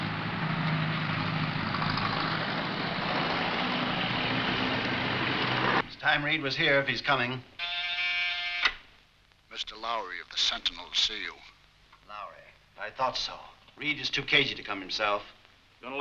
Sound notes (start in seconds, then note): 7.6 buzzing